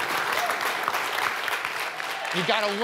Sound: applause

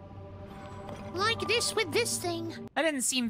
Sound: cute Voice

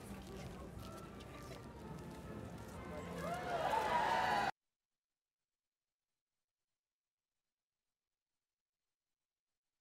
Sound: cheering and tossing of hats

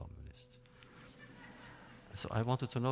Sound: laughter

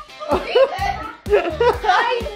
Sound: laughing

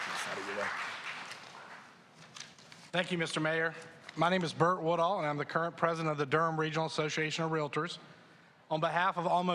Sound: applause

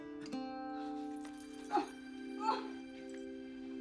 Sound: groaning

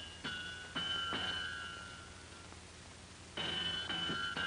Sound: metal clangs

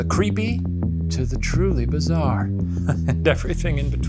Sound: laughing

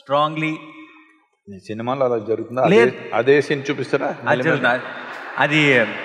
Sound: laughter

